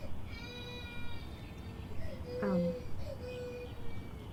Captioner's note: baby crying